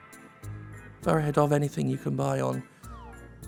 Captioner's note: quietly rereads